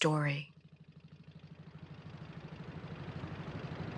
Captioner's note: boat rumbling